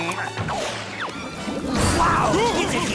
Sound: groaning

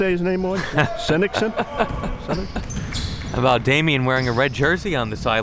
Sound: laughing

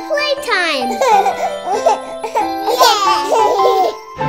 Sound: children laughing

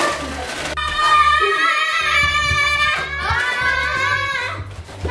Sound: kids yelling

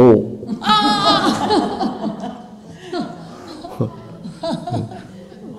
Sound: laughter

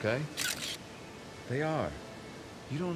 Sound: camera shutter clicks

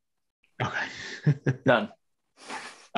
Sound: laughs

